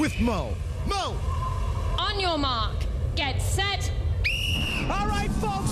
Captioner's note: whistle blows